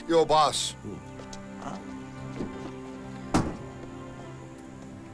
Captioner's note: overlapping chattering